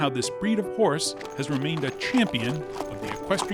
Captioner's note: hooves clacking